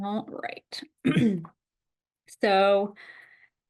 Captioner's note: clears throat